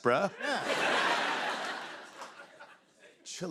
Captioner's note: laughter